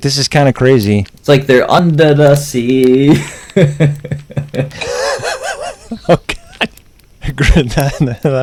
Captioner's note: laughs